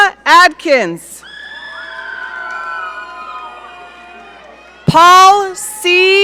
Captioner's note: audience cheering